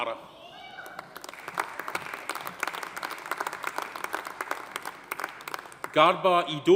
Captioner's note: audience cheering; audience applauding